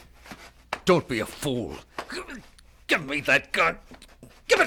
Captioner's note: rapid footsteps; grunting